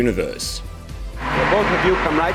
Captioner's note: audience applauds